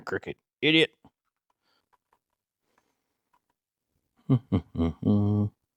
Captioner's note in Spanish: Humming